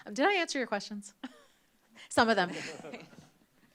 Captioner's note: laughter; chuckles